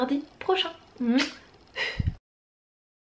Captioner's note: kiss